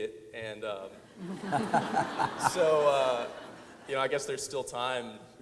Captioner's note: audience laughs